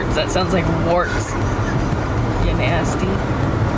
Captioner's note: laughing